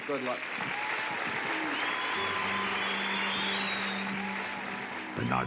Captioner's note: audience cheers and applauds